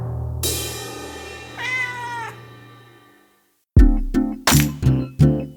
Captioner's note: cymbal crashing; cat meowing; light mellow music